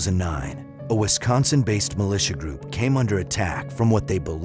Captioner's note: none